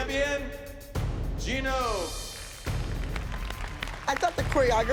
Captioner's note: applause